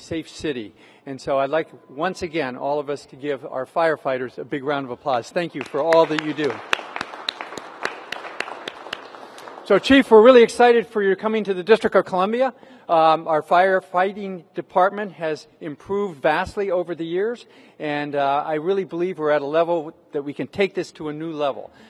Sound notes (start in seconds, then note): 7.0 applause